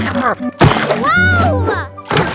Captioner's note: Big Lizard grunting; water sloshing; paddleboard thuds; water sloshes